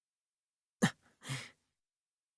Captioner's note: bated breath